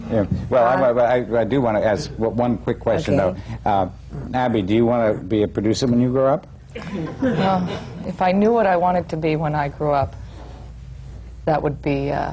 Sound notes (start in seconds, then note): 6.7 laughter